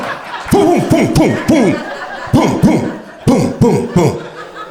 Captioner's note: groans; sound effects